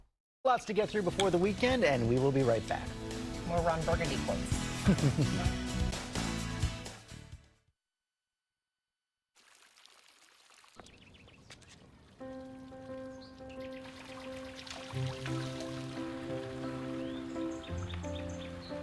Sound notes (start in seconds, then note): 9.3 nature sounds